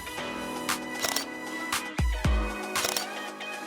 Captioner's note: camera clicks